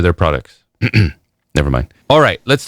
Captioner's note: ahem